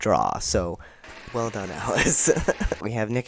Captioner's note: cheering and clapping